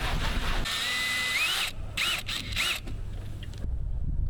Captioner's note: drilling